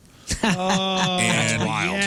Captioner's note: laughing